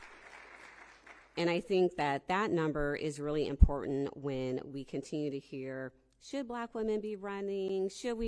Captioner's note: applause